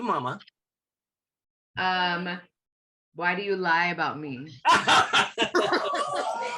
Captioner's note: laughter